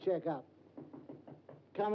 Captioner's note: knocking on door